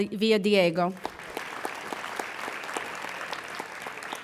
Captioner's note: applauding